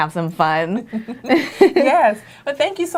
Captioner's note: laughter